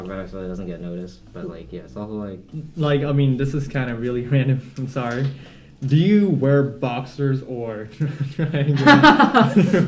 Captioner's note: laughter